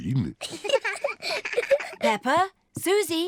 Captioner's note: both giggle